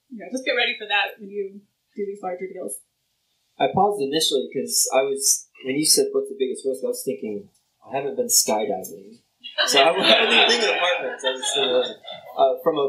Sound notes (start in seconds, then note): 9.6 laughter